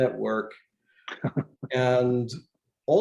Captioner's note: laughs